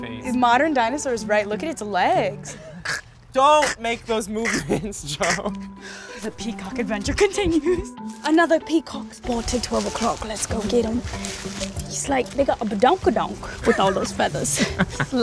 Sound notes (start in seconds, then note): 2.8 makes weird throat noises; 4.3 laughs; 8.2 bad Australian accent; 14.5 laughs